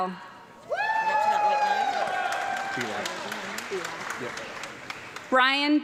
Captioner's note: audience clapping and cheering